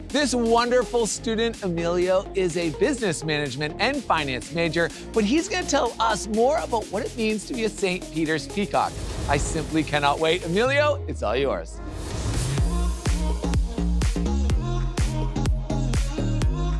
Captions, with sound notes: This wonderful student, Emilio, is a Business Management and Finance major, but he's gonna tell us more about what it means to be a Saint Peter's Peacock. (graphics whoosh) I simply cannot wait. Emilio, it's all yours. (graphics whoosh) (electronic music intensifies)